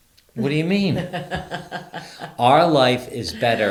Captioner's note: laughing